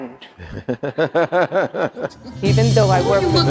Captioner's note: laughing